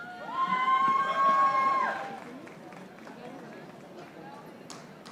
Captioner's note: audience applauding